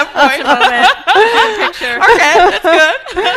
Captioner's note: laughing